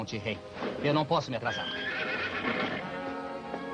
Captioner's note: horse whinnies